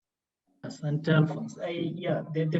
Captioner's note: speaks in Swahili